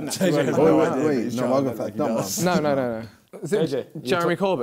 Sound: crowd mumbling

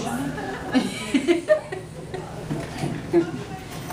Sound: laughs

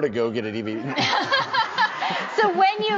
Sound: audience laughing

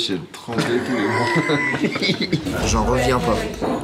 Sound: laugh

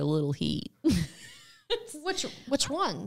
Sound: chuckling

